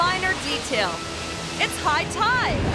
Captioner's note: wave crashing